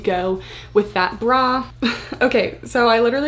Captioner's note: chuckles